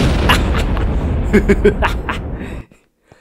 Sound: excitement LAUGH; laughs

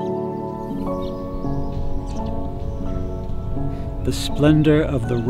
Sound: birdsong

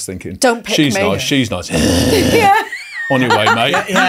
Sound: growls; laughing

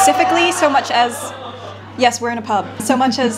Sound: crowd yells

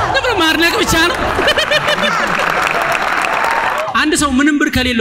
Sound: laughter and applause

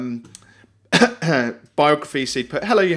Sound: clears throat

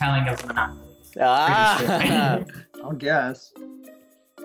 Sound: laughs

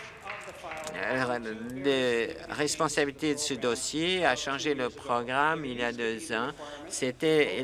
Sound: applause

